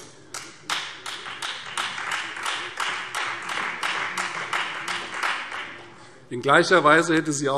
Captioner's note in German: Beifall Freie Demokraten